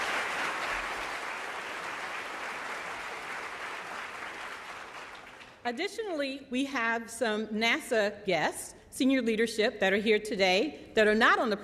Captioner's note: applause